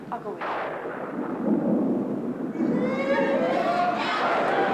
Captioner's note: thunder crashing; kids chattering